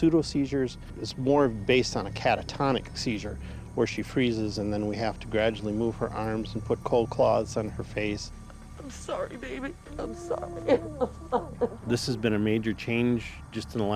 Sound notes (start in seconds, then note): 9.7 crying